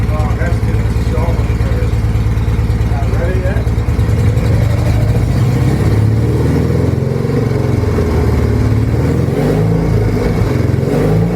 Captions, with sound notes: Oh, that's just so much better. Can I rev it yet? [engine speed picks up] [engine revs and slows several times]